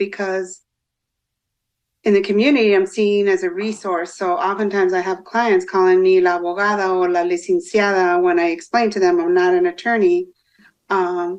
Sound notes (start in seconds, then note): 7.0 foreign language